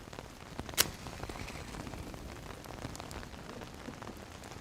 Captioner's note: rain drumming; match whooshing